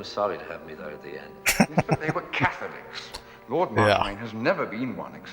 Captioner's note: laughing